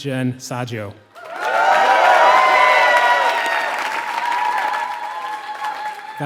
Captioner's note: applause